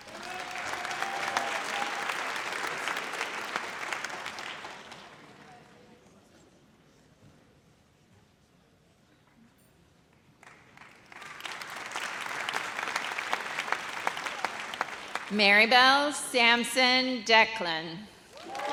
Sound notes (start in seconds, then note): 0.0 audience cheers; 10.4 audience applauds